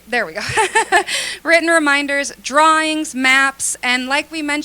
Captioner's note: laughter